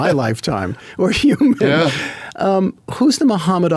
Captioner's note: laughs